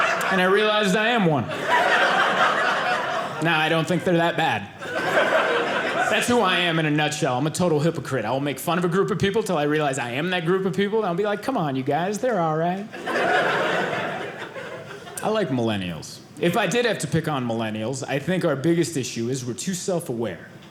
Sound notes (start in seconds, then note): 12.9 audience laughing